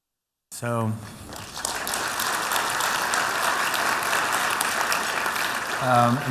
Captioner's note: applause